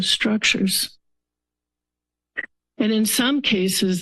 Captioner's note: pause